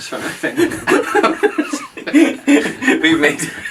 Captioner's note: hysterical laugher